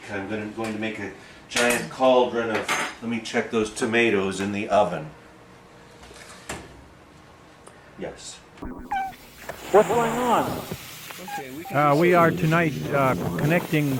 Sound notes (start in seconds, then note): 8.7 cat meow